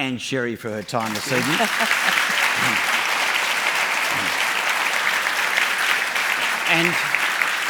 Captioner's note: applause